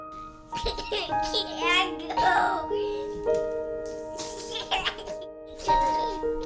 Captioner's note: delicate piano music; child laughing